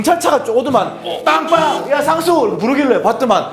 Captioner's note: honk, honk